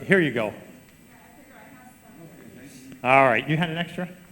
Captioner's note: group chatter